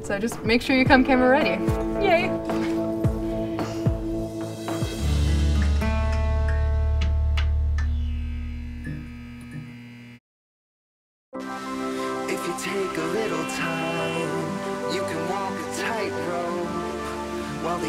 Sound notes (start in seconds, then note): 7.7 sign buzzes; 11.4 lighthearted pop music